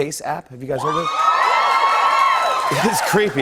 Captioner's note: cheers and applause